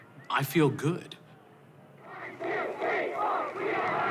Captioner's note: chanting